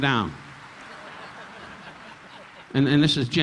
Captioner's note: audience laughing